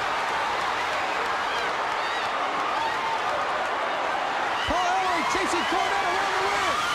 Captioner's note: crowd cheering